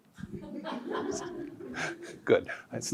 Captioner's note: audience laughs